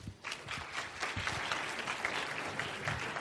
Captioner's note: applause